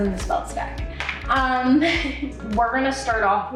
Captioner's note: laughing